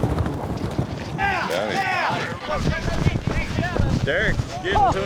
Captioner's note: cheering, shouting